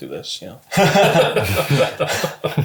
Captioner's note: all laugh